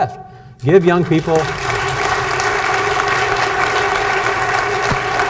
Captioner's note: audience applauds